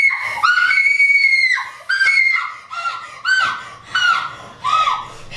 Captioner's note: Phoebe screams